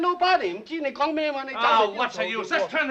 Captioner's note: speaking in Chinese